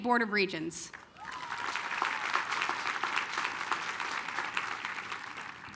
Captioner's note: applause